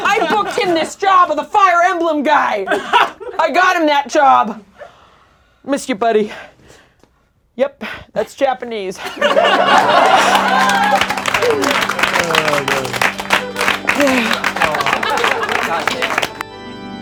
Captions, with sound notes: I booked him this job of the fire emblem guy. I got him that job. Miss you, buddy. Yep, that's Japanese. (laughing and applauding) (melancholic organ music)